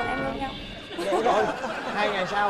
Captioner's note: laughing